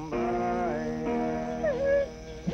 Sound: dog whimpers; barking

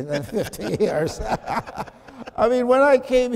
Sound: chuckling

